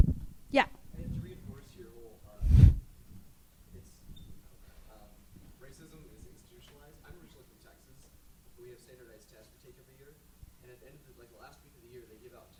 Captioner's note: silence